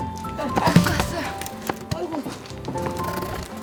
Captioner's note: panting